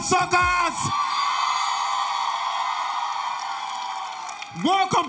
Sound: audience cheering

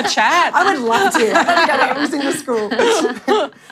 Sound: laughter

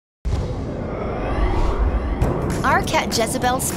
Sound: whoosh

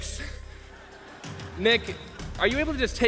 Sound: laughs

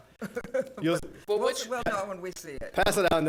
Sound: laughs

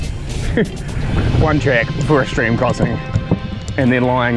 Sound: chuckles

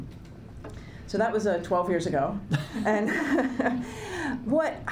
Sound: chuckling

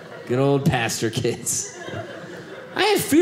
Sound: audience laughing

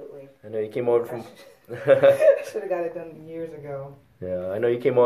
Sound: laughs

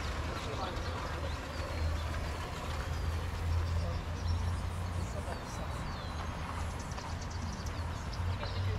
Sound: birds chirping

